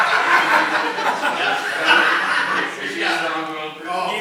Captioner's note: people laughing